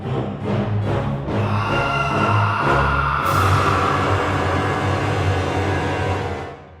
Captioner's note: deathly cry